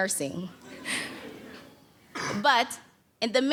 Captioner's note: audience laughs